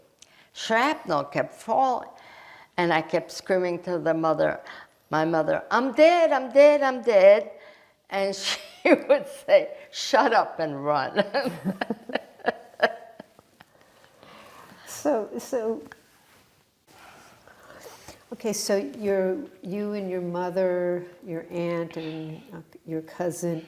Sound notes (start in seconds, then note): 11.2 laughing